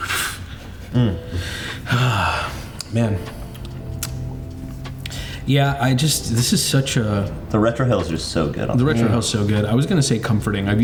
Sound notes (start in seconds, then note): 0.9 sighs; 2.2 exhales deeply